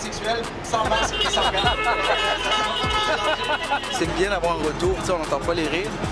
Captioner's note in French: klaxons